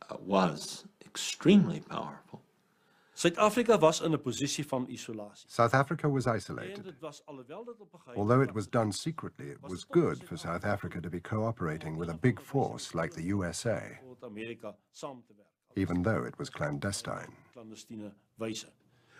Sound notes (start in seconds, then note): 4.1 speaking afrikaans